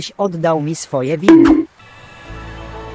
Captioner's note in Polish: bonk